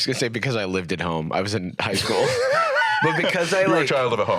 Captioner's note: laughs